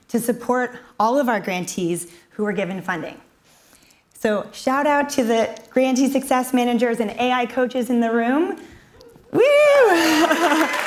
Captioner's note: cheers and applause